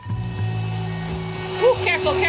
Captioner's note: vacuum humming